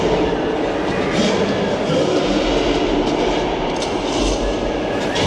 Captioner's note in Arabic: زئير الغوريلا